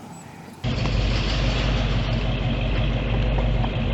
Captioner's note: rumbling sound from1955 Chevy Bel air